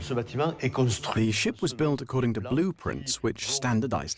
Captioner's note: voiceover